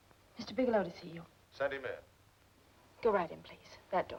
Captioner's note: on phone